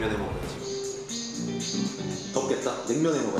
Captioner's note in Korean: 매미 소리